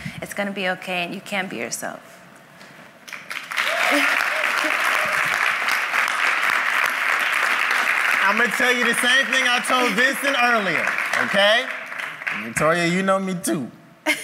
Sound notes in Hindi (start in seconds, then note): 3.0 तालियाँ